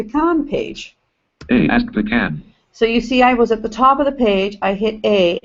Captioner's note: JAWS speaking